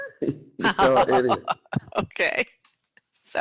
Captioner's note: ocker laughing